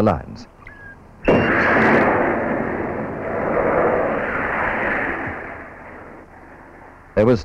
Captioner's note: sound of rocket